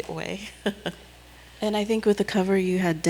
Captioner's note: chuckles